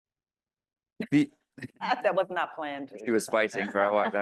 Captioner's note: laughs